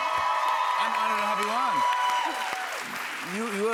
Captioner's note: cheers and applause